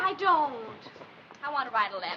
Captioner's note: none